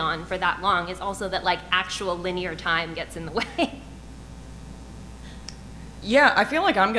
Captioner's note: chuckles